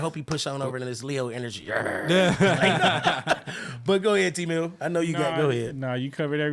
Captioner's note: laughing